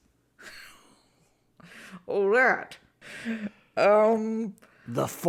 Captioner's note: laughs